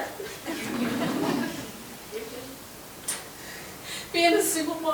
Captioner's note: members chuckling